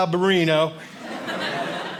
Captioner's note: audience laughing